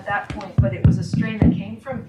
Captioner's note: tapping on microphone